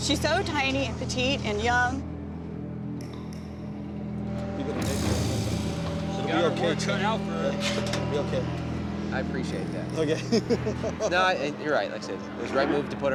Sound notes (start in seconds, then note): 10.0 laughs